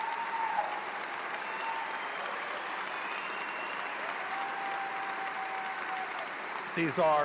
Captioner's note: applause